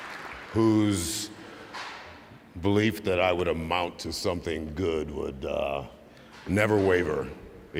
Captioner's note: cheers and applause